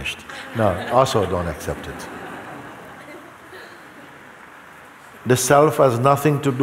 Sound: laughter

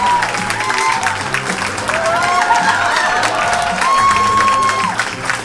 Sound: audience cheers and applauds

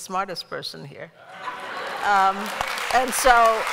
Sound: laughter; applause

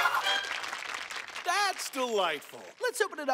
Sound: people clapping

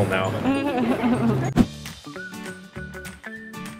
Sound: laughs; cheerful, whistling music

